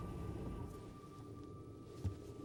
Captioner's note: engine shuts off